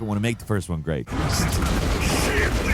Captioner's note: guns firing